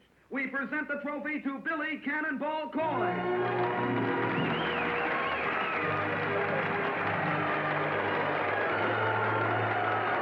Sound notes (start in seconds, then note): 2.9 triumphant music; 3.0 crowd cheering